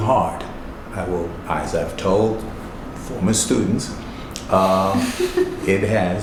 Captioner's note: laughing